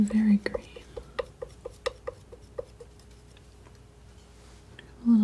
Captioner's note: tapping